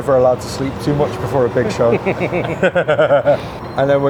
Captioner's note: laughs